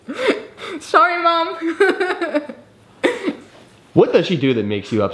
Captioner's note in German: lacht